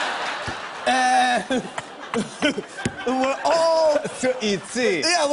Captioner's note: laughter; chuckles